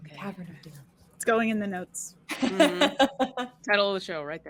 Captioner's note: all laughing